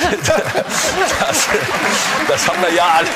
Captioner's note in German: Lachen, Applaus